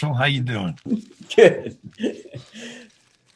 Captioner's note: chuckling